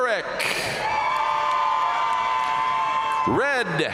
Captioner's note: audience cheering and applauding